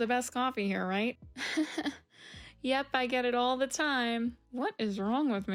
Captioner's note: awkward laugh